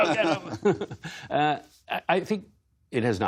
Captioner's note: laughter